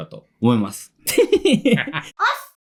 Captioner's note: laughs